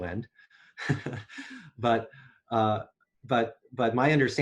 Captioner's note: laughs